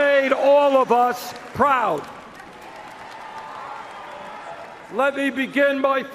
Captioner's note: cheers and Applause